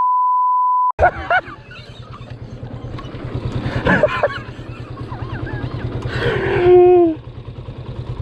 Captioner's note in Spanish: risas